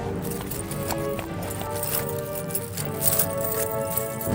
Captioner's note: Fleques' jewelry rattling